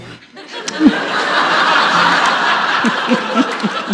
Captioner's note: audience and Katie laugh